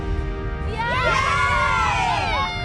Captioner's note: all cheering